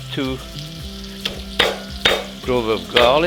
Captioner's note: smashing